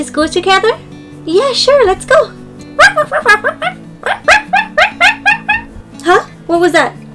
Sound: dog barking

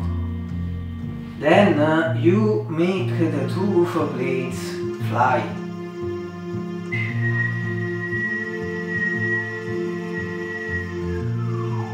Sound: whistle

